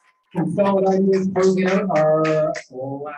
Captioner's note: applause